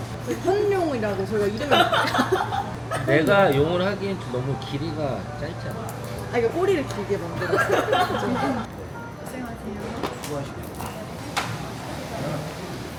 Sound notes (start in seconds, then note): 7.5 laughs